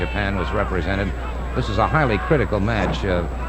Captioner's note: audience hollering; wrestlers thudding